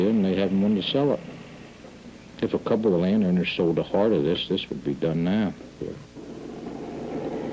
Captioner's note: none